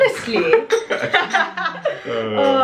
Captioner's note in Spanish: laughing